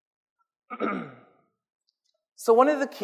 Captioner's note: clears throat